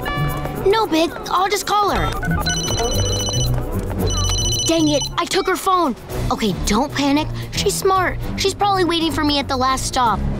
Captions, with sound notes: No big, I'll just call her. [ringing] Dang it, I took her phone. Okay, don't panic, she's smart, she's probably waiting for me at the last stop.